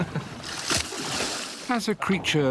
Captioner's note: chuckles; water splashes